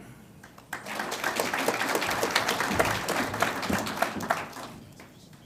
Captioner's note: audience applauds